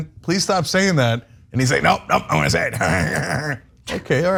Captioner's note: laugh